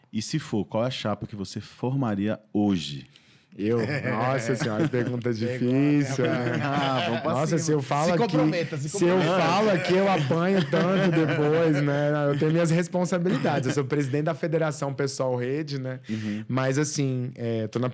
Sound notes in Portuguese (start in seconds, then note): 8.1 risadas